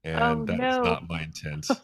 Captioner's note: laughs